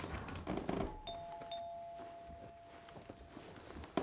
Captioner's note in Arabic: رنين جرس الباب